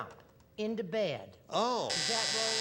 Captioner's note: buzzer